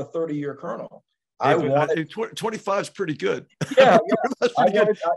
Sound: laugh

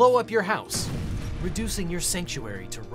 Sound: explosion

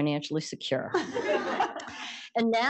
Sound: laughter

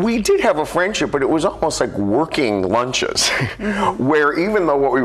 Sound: laughs

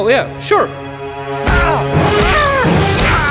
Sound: bonk

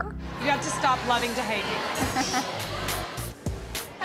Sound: chuckles

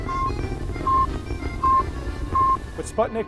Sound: soft lively music; beeping

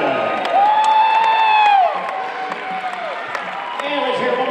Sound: applause

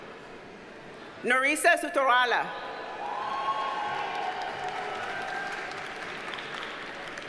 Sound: audience cheers and applauds

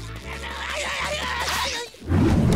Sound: crying

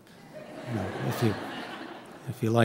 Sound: audience chuckling

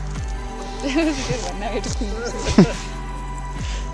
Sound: laughing

